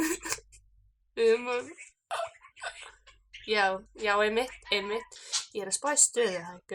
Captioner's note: boss coughing